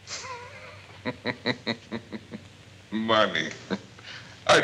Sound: laughs

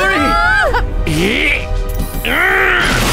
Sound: Ace grunts

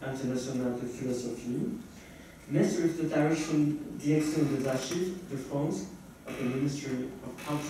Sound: french

